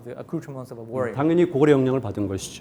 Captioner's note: speaking in Korean